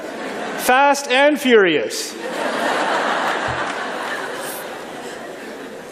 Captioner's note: laughter